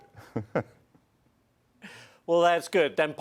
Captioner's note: laughter